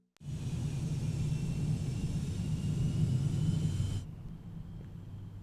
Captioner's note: aircraft whirring in distance